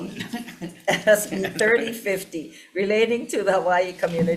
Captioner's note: laughing